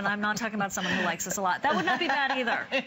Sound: laughter

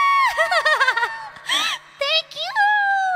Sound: laugh

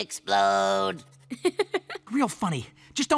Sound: laughing

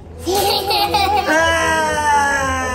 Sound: laugh

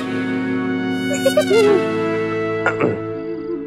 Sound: giggling; clearing throat

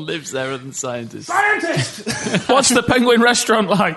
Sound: laughter

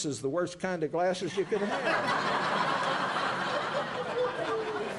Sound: laughter

